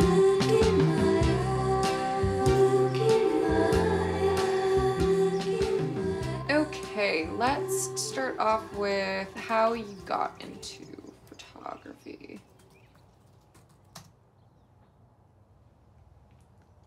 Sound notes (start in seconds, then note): 13.2 keyboard clacks